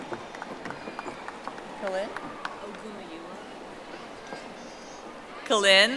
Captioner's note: audience applauding